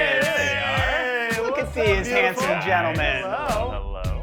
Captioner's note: group chatter